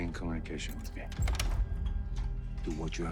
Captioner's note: lock unlocking